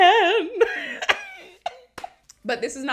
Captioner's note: laughs